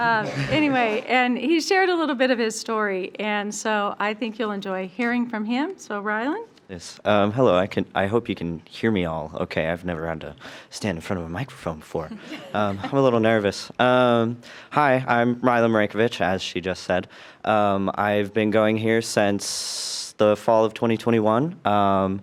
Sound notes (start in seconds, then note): 12.1 trustees laugh